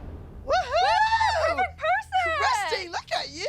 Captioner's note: cheering